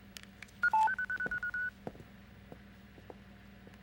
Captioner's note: machine beeping